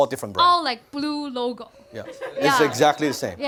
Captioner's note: laughter